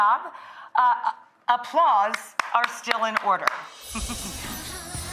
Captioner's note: upbeat music; giggles